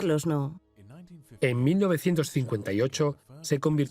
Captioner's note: voiceover